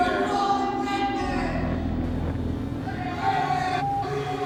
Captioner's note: continues shouting